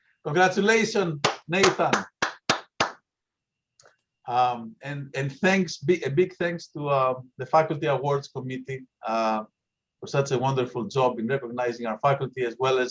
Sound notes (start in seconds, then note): 1.2 applause